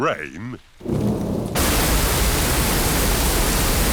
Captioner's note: thunder rumbling